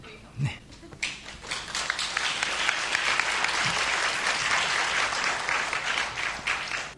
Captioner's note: audience applause